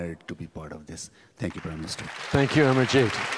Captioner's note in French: Applaudissements